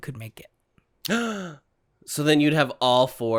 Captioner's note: gasp